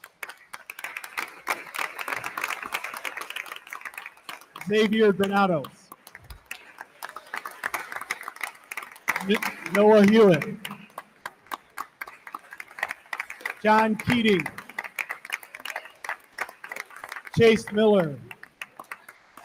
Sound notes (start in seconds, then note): 0.2 attendees continue applauding; 6.6 attendees continue applauding; 11.6 attendees continue applauding; 15.1 attendees continue applauding; 19.1 attendees continue applauding